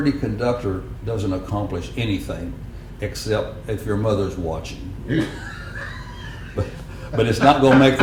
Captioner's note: laughter